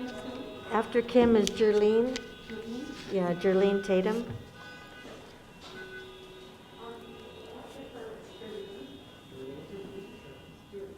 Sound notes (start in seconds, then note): 6.9 cars honking; 8.6 murmuring